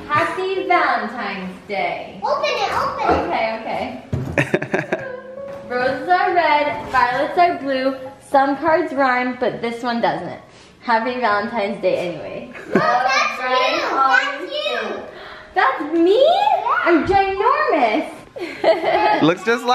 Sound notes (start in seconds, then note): 4.3 laughs; 16.1 gasps; 18.4 laughs